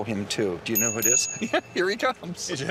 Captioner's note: bell chiming; chuckling